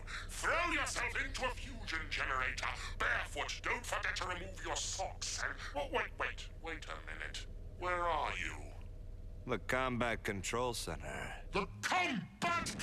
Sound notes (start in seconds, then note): none